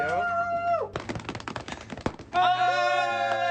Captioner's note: hands drumming; band members shouting and applauding